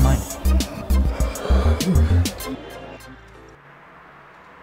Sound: Bartender sighs

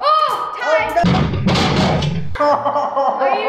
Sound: crash; laughs loudly

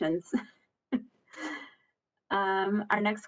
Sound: laughs

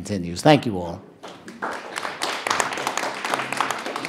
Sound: clapping

